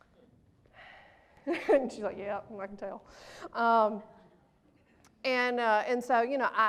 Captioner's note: laughs